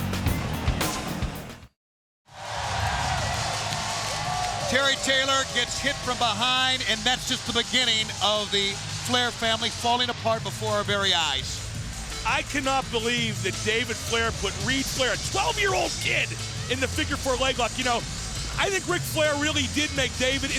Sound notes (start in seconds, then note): 0.0 upbeat music; 2.6 crowd cheering